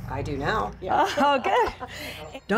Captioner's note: laughter